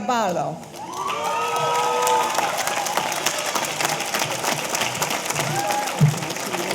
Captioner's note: audience applauding; audience cheering